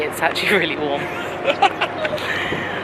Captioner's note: laughing